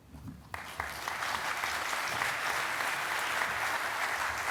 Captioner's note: audience applauding